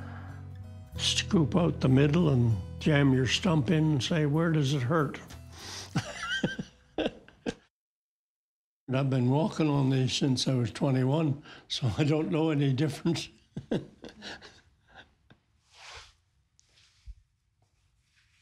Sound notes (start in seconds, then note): 7.0 laughs; 12.8 laughs